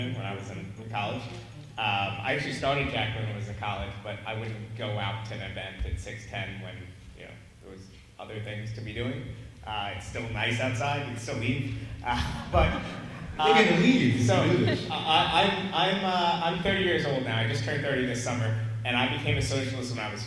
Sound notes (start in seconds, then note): 12.1 laughs; 12.1 audience laughs